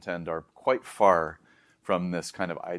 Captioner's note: inhales